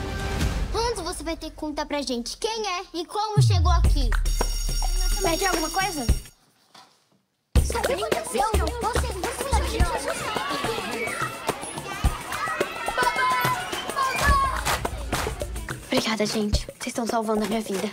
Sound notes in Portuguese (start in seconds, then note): 4.3 sinal da escola; 10.4 música animada